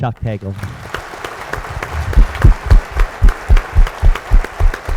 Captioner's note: audience applauds